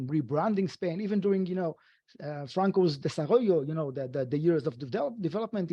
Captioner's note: speaking foreign language